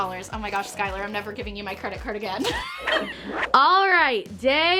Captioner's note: laughs